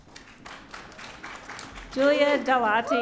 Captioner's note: audience applauding